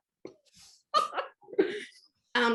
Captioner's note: laughter